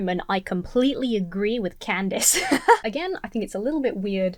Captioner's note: laughs